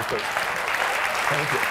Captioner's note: clapping